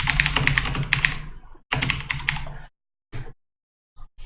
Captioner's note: typing sounds